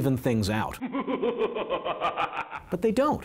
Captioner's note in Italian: risata